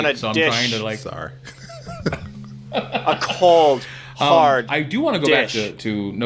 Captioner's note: indistinct chattering and laughing